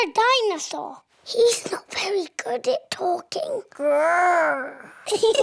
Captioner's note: whispers; both giggle